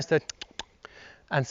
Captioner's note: clicks tongue